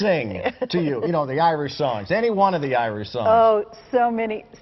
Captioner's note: laughter